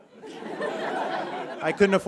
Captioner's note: audience chuckles